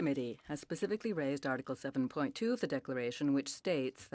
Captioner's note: speaking French